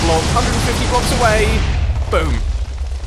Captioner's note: massive exploision